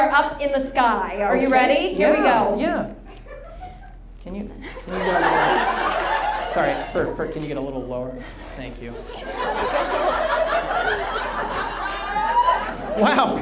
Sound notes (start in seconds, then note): 4.6 audience laughs; 9.8 audience laughs